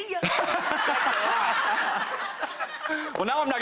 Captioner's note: all laugh